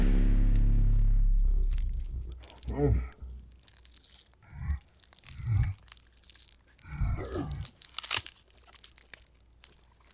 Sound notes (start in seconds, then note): 0.0 ominous music continues; 2.6 creature grunting